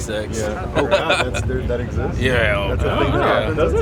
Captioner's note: sarcastically